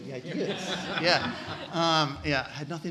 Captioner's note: laughing